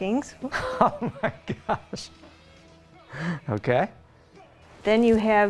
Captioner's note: laughing